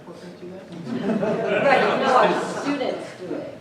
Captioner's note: laughter